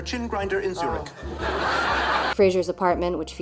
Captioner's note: canned laughter